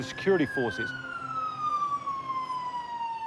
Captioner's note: siren wails